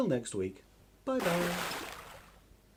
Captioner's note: big Splash!